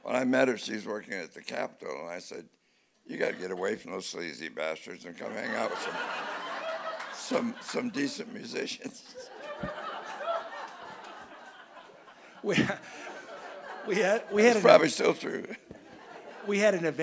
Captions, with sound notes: When I met her she's working at the capitol. I said you got to get away from those sleazy bastards and come hang out with him some some decent musicians. (audience laughing) It's probably still true.